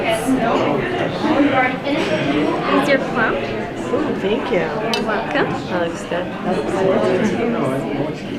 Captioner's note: chatter, thank yous